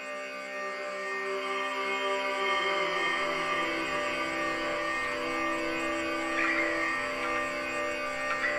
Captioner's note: man Droning; 男子嗡嗡声